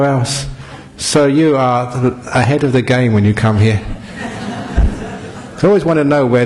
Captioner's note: laughter